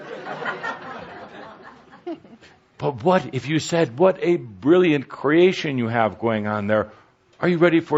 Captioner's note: laughter